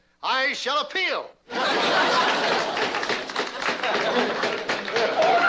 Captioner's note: Addamses clapping, gavel banging